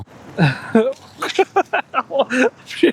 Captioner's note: laughing